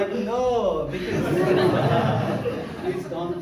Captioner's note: crowd laughs